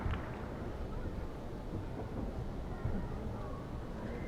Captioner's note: applauding